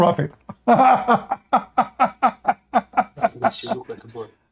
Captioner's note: Ketawa